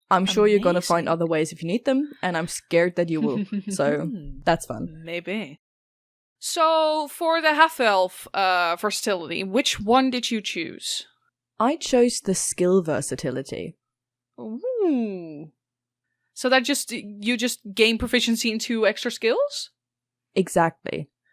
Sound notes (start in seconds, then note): 3.8 chuckles ominously